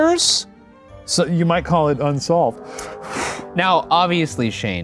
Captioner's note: exhales